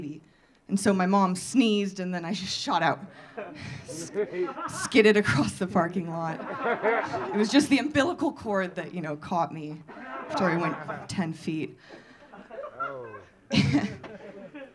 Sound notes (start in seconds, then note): 5.6 audience laughing; 12.3 audience laughing